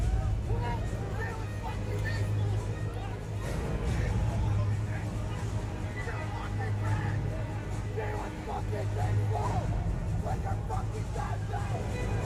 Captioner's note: shouts